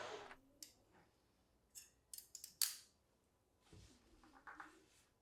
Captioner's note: tool clicking